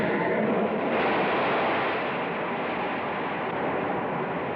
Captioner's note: wind gushing